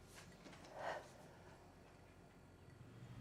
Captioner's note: exhales